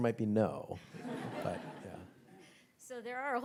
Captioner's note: audience chuckles